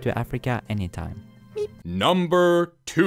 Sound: meep

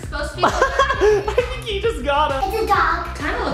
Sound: laughing

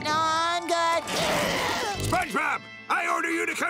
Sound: screaming

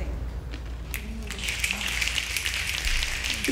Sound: snapping

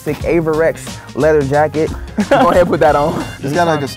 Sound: laughs

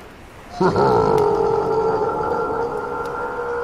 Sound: chuckled

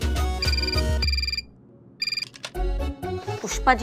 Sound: phone ringing

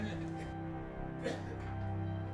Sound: cough

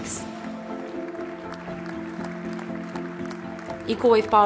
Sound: audience applauding

